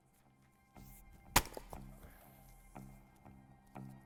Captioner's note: firewood chopping